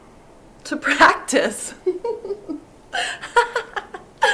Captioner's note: laughs